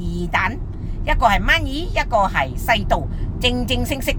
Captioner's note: Cantonese